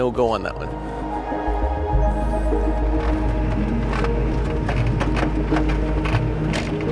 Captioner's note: gentle suspenseful music; vehicle rattling